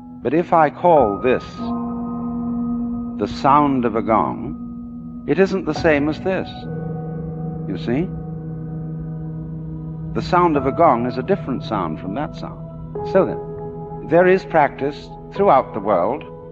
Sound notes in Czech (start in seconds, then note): 7.8 gong